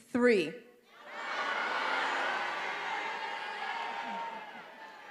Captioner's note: graduates yelling